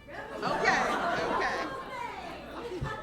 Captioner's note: laughter